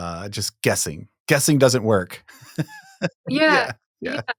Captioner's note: chuckling